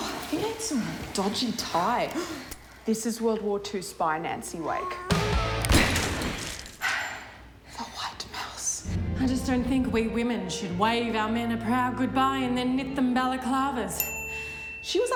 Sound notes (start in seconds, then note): 2.2 gasp; 5.6 another gun shot